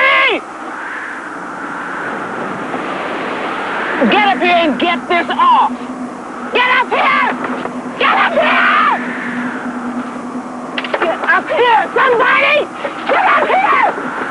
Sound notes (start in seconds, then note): 0.2 wind whistling; 6.2 stamping feet